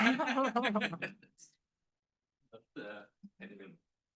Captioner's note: students laughing